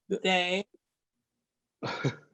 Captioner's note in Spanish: Ríe